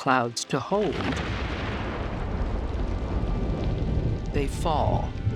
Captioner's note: thunder rolls